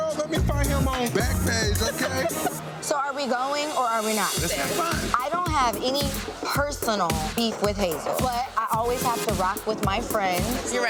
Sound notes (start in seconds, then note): 1.5 person laughs; 4.4 upbeat thumping music